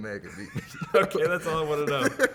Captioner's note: laughing